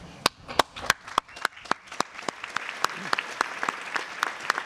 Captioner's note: applause